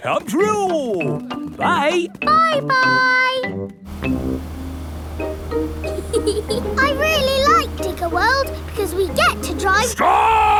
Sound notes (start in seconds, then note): 5.8 george chuckling